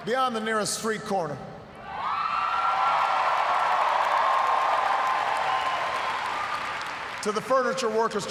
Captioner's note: cheers, applause